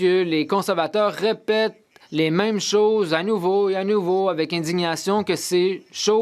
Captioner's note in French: voix de l'interprète